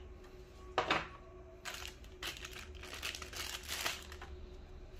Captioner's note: plastic sound